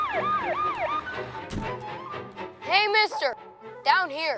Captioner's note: siren blaring